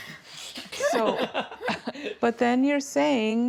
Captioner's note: laughter